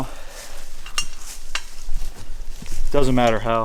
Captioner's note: harness clanking